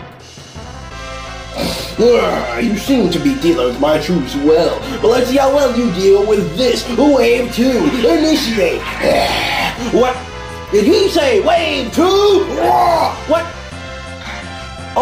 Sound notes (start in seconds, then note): 7.8 graaaaaah; 12.2 illager roars